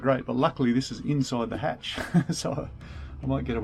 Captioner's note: laughs